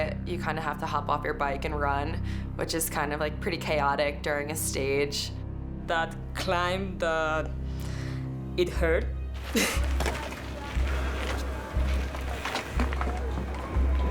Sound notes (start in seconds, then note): 9.2 tense orchestral music continues; 9.4 laughs